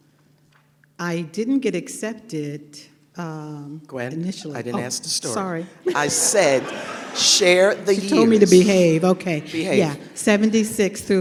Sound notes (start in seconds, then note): 5.8 laughter